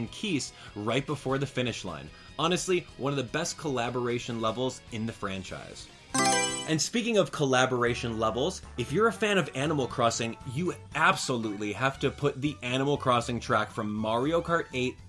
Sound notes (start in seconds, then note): 6.1 Mario Selection Sound